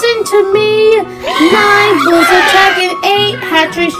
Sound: birds squawking angrily

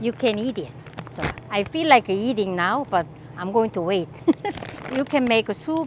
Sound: laughs

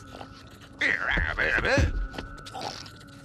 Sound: sniffling; exclaims

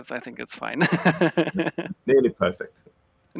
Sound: laughs

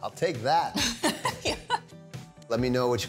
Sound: laughing

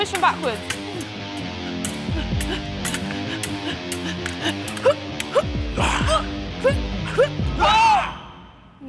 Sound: fencing noises

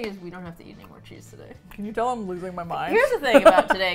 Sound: laughs

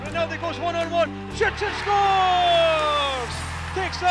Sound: crowd cheer!

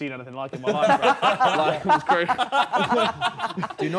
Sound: group chattering

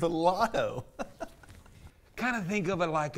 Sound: laughs

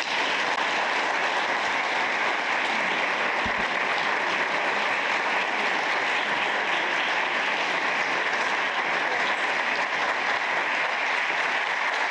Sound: applause

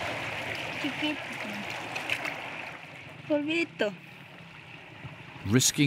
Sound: child speaking in foreign language

